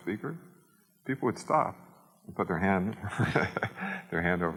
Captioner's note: chuckles